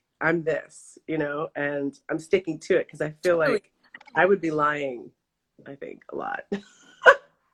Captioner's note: laughs